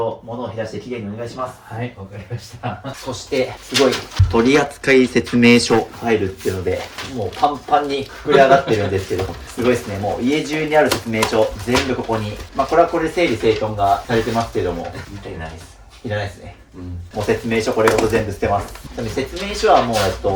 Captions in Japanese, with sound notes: はい、わかりました。[笑い] ま、そしてすごい取り扱い説明書ァイっていうのでもうパンパンに膨れ上がってるんですけどすごいすね。もう家中にある説明書全部ここに。ま、これはこれで整理生頓がされてますけどもらないす いらないすね。 うん。 もう説明書これごと全部捨てます。ちなみに説明書はもう、えっと、製品の型番入れたらインターネットでもダウンロードできるので大丈夫です。というのでついに終わりました。じゃじじゃじじじゃじん頑張りましたね。ということですごいこんだけ減らしてます。